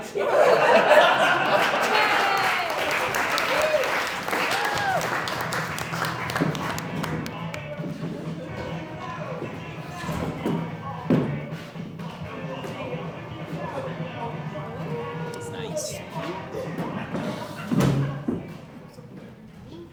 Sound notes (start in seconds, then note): 0.0 laughter; 1.1 applause